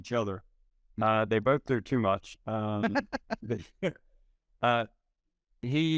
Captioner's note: laughing